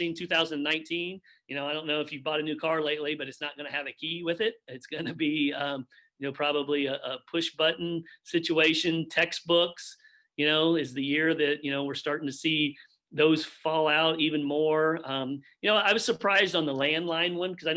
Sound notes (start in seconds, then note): 4.9 chuckles